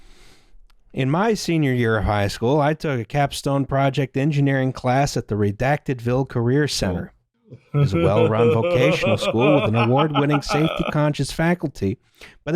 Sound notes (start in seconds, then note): 7.5 laughs